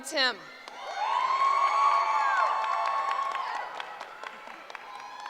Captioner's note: cheering